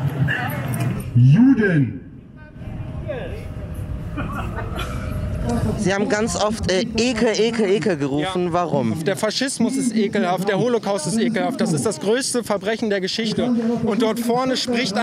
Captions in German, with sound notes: Juden. (Lachen) Sie haben ganz oft "Ekel" gerufen. - Ja. Warum? Der Faschismus ist ekelhaft, der Holocaust ist ekelhaft. Das ist das größte Verbrechen der Geschichte.